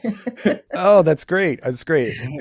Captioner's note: laughs